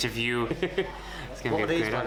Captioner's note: chuckles